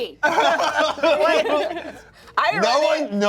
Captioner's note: laughs